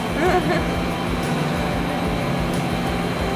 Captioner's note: laughing